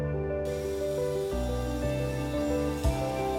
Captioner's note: saw whirs